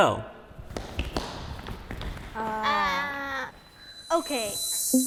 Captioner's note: kids scrambling footsteps